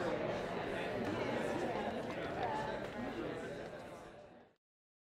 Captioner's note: applause; soft crowd conversation